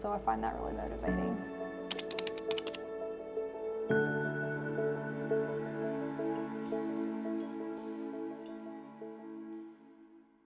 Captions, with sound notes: So I find that really motivating. (bright music) (keys clacking)